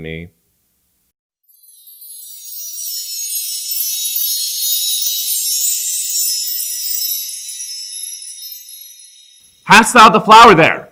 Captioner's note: windchimes